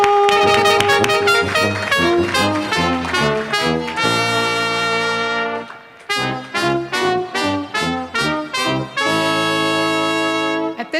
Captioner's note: cheering, applause, and musical fanfare